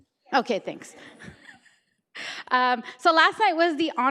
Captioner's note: laughs